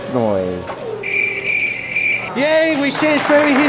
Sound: crickets

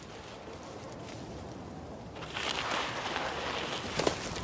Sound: leaves rustling

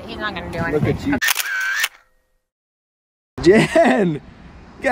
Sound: camera clicks

